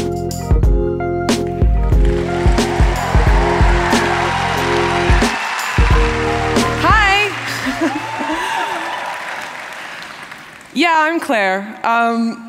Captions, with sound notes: [Applause] >> Hi, yeah, I'm Claire.